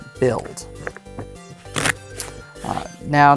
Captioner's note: cards riffling